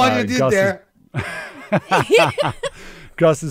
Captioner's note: laughs